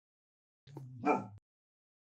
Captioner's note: dog barking